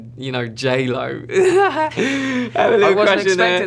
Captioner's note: giggle